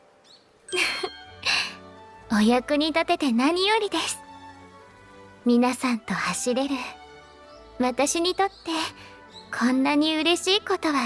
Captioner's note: chuckles